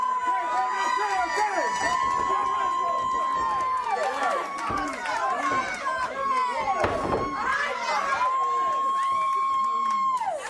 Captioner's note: crowd cheering